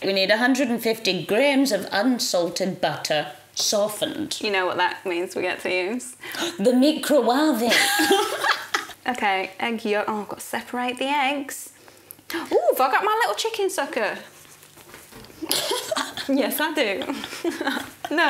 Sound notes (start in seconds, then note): 7.7 both laughing; 16.8 laughing